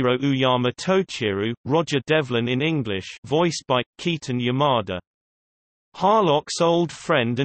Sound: Roger Devlin in English

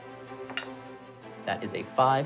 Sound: rolling dice

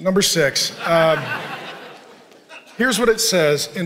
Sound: congregation laughing

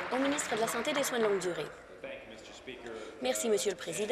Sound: applause

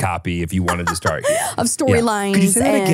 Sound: laughs

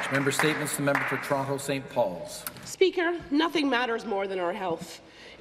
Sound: some Applause

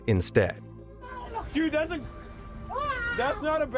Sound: screaming

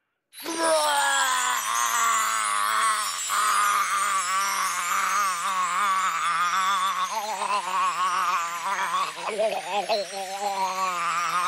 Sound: barfing

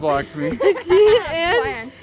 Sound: laughing

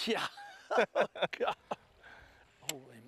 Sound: laughter

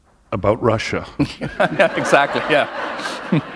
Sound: laughter

